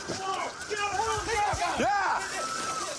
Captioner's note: shouting